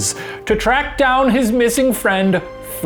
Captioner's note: none